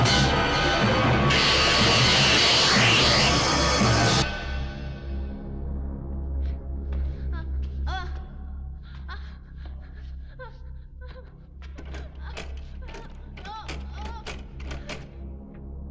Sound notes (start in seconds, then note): 8.8 Julie whimpering; 13.2 door rattling